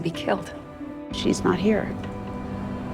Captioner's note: voiceover